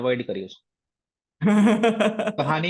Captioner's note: laughs